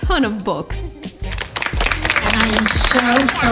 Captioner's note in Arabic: الجمهور يصفق